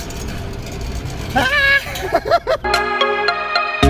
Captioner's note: laughs